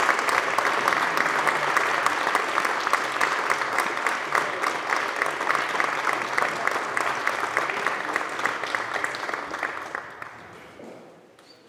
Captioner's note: applause